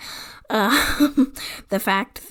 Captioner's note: laughs